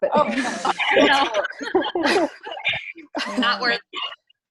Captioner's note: all laughs